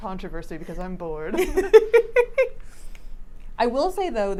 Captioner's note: laughs